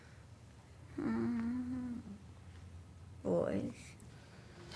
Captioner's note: groans